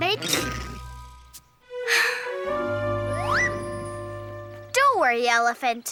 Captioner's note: playful music; sighs